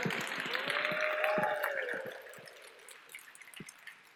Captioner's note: applause